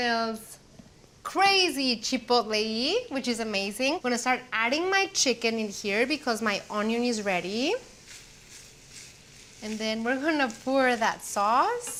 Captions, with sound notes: crazy chipotle-y, which is amazing. Gonna start adding my chicken in here because my onion is ready... [Sizzling] and then we're gonna pour that sauce.